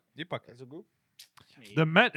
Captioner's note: speaking In Foreign Language